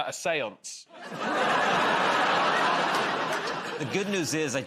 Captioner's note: laughter